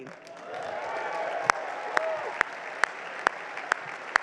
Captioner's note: crowd cheers; crowd applauds